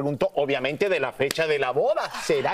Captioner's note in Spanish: risas